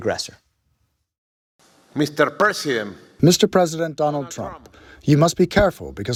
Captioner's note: through translator